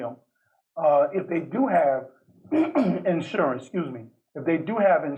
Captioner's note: clears throat